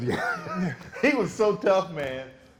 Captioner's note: laughing